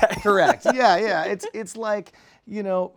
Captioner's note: laughter